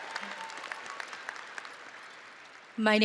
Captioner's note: audience applauding and cheering